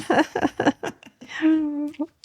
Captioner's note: laughing